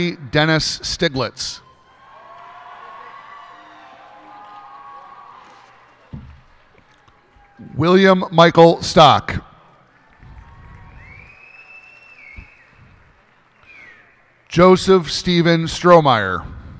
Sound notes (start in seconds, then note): 1.6 cheers and applause; 9.7 cheers and applause